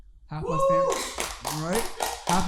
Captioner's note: audience cheering